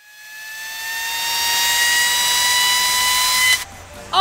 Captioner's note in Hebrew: זמזום של מדחס אוויר